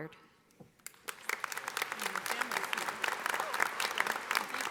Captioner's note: audience applauding